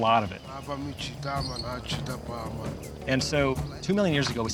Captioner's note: speaking local language